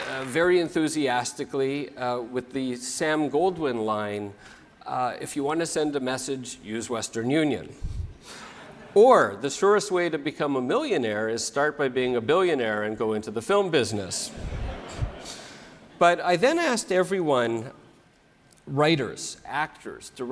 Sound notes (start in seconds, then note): 0.0 applause; 7.8 laugh; 14.4 laugh